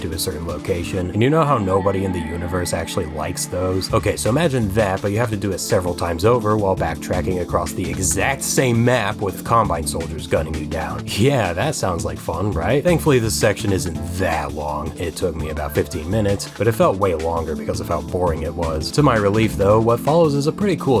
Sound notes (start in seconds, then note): none